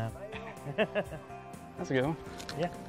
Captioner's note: laughing